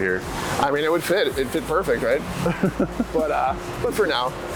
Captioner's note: giggles